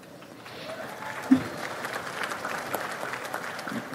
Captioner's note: audience applauds